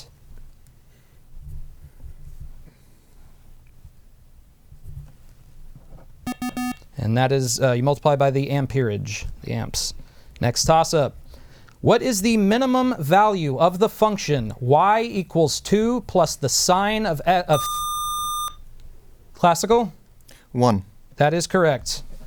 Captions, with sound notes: And that is you multiply by the amperage, the amps. Next toss up. What is the minimum value of the function Y = 2 + the sign of A? [Buzzer] Classical. One. That is correct.